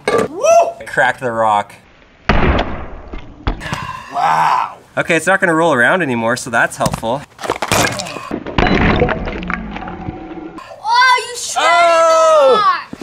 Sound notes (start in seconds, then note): 2.2 sledgehammer hits; 8.5 shatter noise